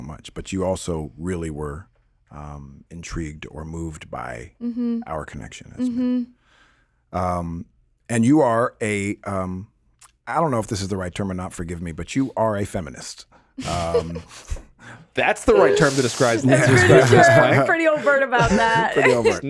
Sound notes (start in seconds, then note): 13.6 chuckling